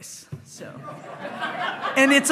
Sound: hearty laughing

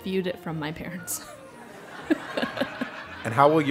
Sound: laugh

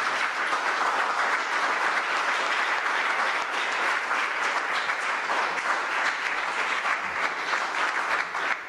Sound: applause

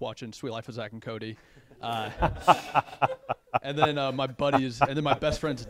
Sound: laughter

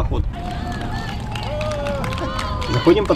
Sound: shouts of "Well done!" and applause from the bridge

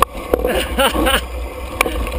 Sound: laughing

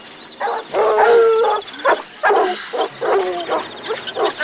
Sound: dogs barking

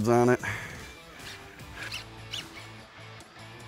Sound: line pulling

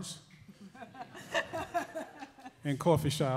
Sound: laughing

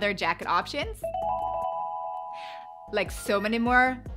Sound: chimes ringing

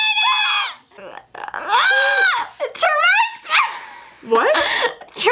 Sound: screams

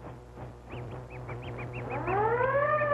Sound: mouse squeaking; siren wails

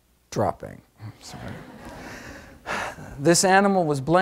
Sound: audience laughs

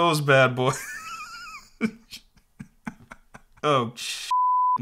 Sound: laughs

